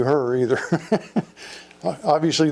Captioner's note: laughs